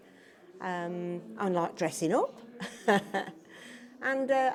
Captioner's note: laughs